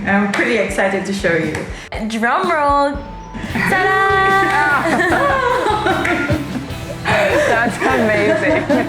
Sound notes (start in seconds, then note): 3.5 all laughing